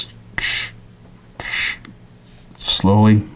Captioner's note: breathing sounds